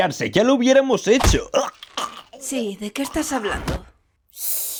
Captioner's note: gagging